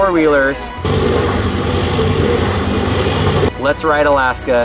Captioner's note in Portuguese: Barulho de motor